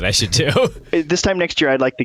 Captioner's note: laughter